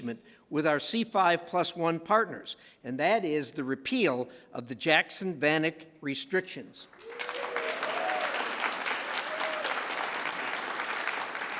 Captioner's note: applause